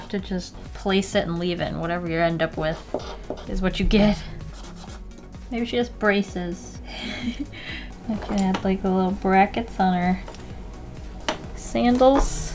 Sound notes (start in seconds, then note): 6.8 low laugh